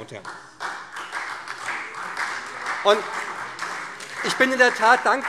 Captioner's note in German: Beifall SPD und Freie Demokraten